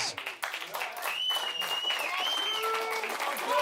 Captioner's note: audience cheers